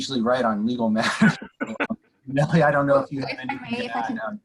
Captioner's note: laughter